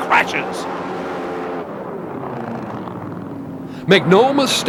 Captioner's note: boat engine revs